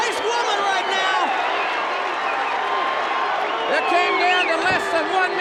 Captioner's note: audience cheers